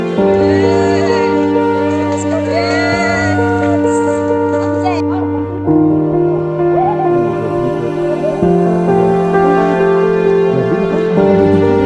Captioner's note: everyone cheering